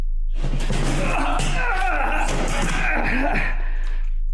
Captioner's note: Richard groans